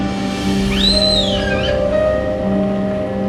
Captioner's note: teapot whistles